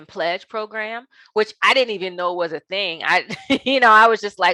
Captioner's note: laughing